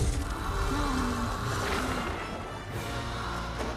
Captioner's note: inhaling deeply